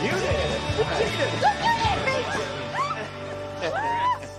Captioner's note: all laugh